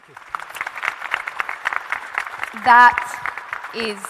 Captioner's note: audience and panel applauding